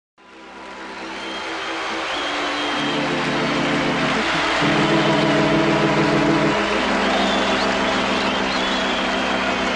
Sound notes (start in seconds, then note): 0.0 audience whistling; 2.4 organ resonating; 5.8 audience clapping & cheering